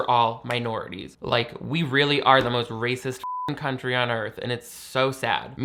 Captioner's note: beep